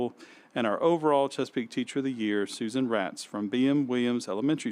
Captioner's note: none